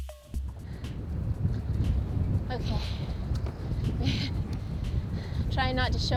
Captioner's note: deep breath